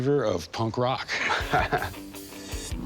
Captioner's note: laughs